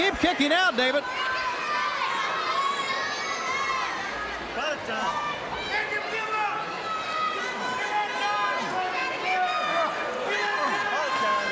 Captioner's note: crowd chatter